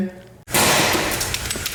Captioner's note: loud crash